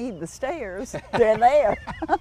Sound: laughter

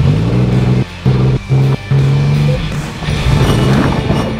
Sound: car engine revving

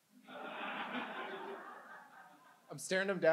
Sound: audience laughs

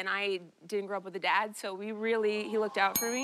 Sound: audience "awws"

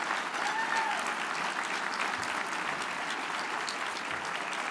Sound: audience applauds

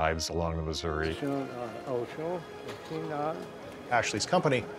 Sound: speaking arikara

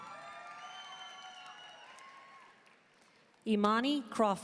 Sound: audience cheering and applauding

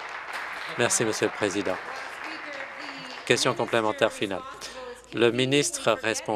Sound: some Applause

